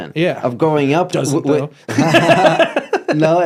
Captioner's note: laughs